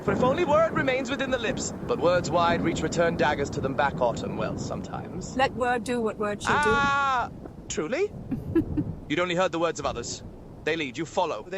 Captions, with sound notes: But if only word remains within the lips, but words wide reach return daggers to them back, Autumn. Well, sometimes. - Let word do what word shall do. - Ah, truly. (Autumn chuckles) You'd only heard the words of others. They lead, you follow.